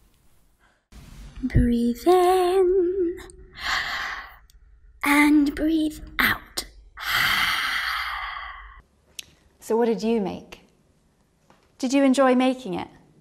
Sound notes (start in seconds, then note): 3.8 breathes in; 7.0 breathes out